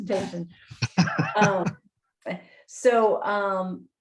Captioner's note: chuckles